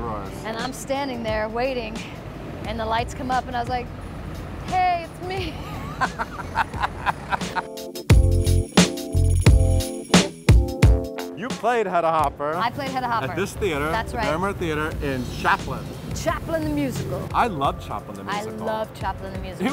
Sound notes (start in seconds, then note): 5.5 both laughing; 8.0 mellow music